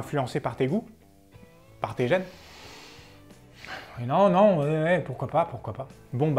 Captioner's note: sigh